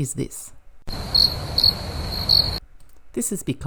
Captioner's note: sound of crickets